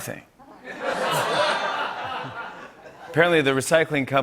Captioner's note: laughter